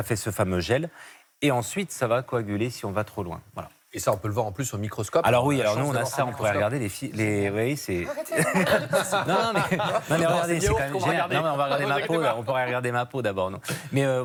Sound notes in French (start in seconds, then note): 8.1 rires